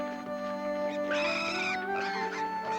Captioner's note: squealing